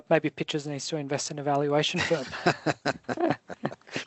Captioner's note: laughs